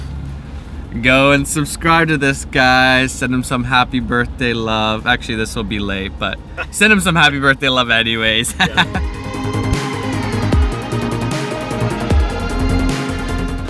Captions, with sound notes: - Go and subscribe to this guy, give him some birthday love. Actually this will be late but, send him some happy birthday love anyways. (laugh) (inspiring music)